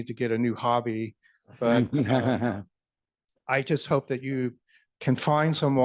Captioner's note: laughter